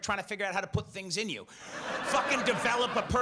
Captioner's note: audience laughs